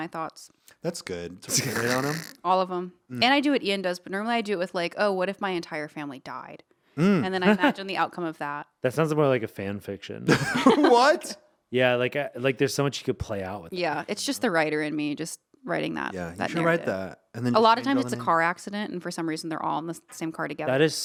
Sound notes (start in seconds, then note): 7.0 laughing; 10.2 laughing